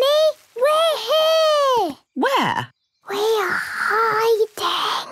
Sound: Peppa whispering

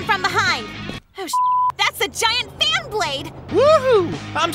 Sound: beep

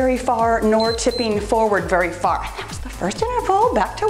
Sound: timer beeps

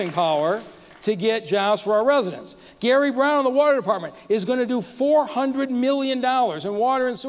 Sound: applause

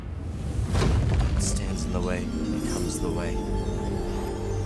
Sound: rocks crumbling

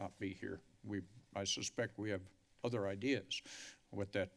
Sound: inhales

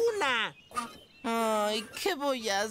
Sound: whining

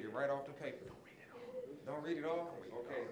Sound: whispering

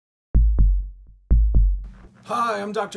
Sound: heartbeat rhythm

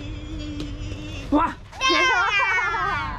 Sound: making a race car noise; laughs

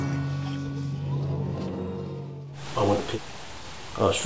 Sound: audience groaning

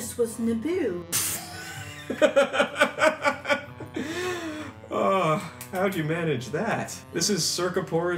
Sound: laughs again

